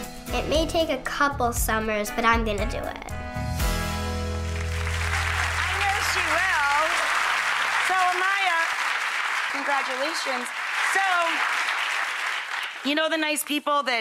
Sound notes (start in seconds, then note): 2.2 upbeat music; 4.9 audience applausing; 7.9 audience loudly applauding